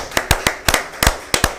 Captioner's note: applause